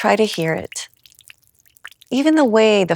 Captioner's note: sounds of water lightly dripping